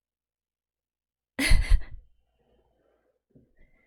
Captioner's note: laughs